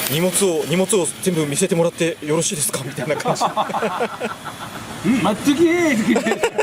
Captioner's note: laughs